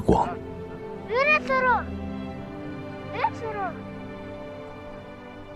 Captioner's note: child exclaiming in Tibetan